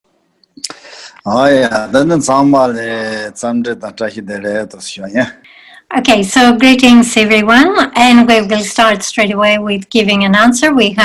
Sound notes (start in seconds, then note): 0.7 speaking in foreign language